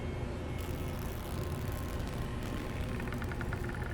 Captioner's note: cloth ripping